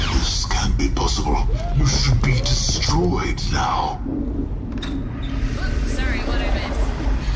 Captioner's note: flushing and entering room